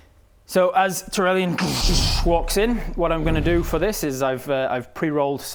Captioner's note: doosh doosh